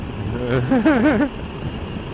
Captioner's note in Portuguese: risada